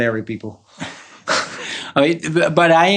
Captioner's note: chuckles